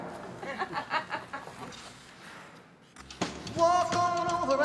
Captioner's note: woman laughs